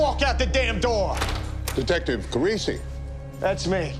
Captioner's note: door opens